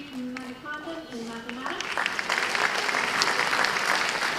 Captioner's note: applause